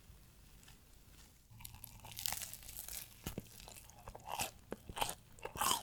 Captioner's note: eating Sound